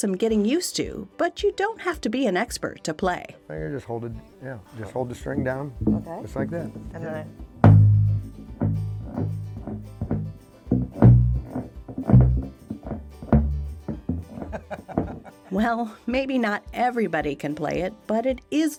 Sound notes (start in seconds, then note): 8.9 string whirring; 14.3 chuckling